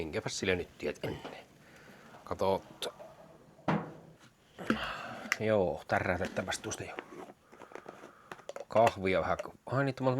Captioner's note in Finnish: huokaus